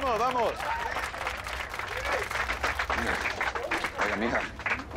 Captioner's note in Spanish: Aplausos